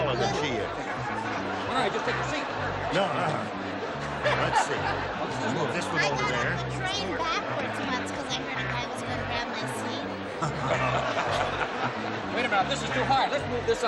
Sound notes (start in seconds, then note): 10.4 laughter